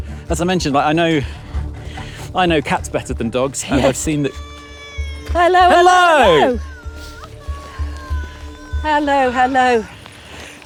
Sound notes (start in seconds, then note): 4.3 woman wailing; 7.2 wailing continues